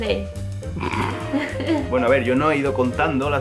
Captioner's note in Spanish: ríe